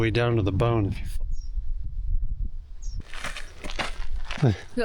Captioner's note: wind blowing